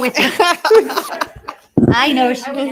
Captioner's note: all laughing